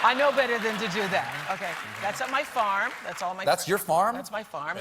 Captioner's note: applause